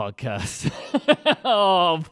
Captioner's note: laughing